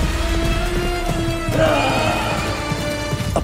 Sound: grunting

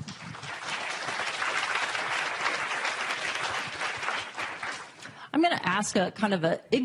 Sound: applause

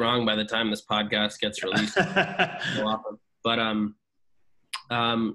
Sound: laughs

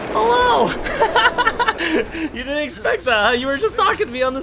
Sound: laughs

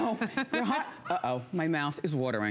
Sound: laughter

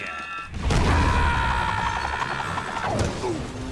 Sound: screaming

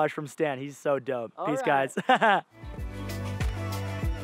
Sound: laughs; calm, upbeat music

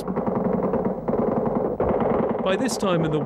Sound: guns firing

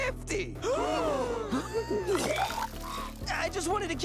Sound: crowd gasps, man retches

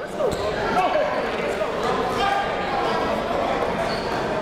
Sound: crowd talking

